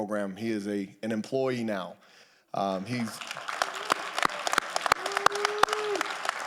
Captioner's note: audience applauding